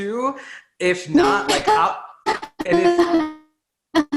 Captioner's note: laughs